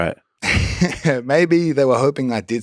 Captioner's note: Craig laughs